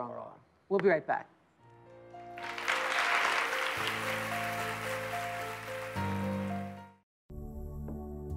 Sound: applause

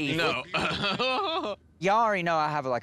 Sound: giggles

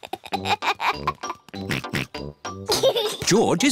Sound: giggles; oinks

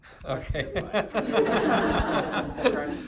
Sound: laughter

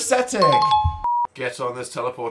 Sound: ding

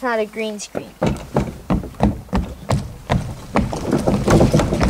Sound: thudding footsteps

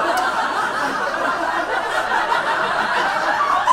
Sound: audience laughs

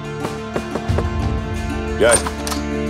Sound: knock on door

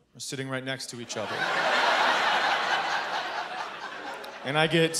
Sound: laughter

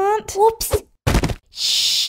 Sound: thud!

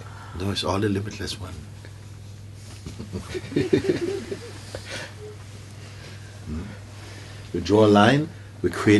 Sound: laughter

